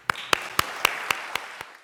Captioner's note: audience applauding